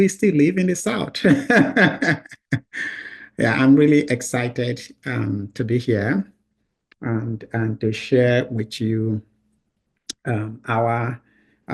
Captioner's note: laughs